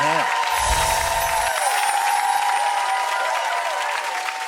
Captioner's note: audience applause